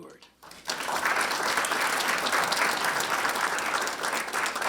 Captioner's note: audience members clap